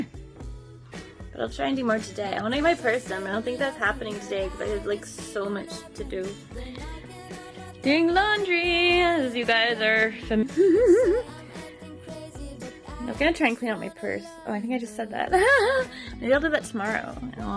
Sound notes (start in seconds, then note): 0.2 giggles; 15.3 laughs; 15.3 giggles